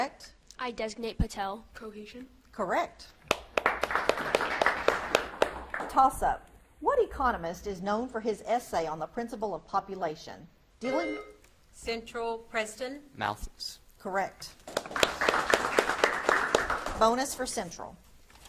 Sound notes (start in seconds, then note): 3.2 audience claps; 10.8 buzzer beeps; 14.6 audience claps